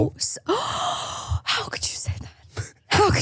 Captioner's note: gasps